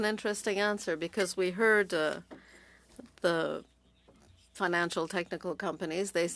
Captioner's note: speaking French